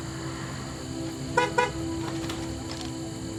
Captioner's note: beeping horn